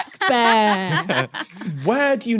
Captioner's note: snickers